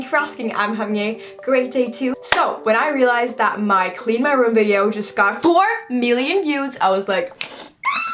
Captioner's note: maniacal squeeeee sound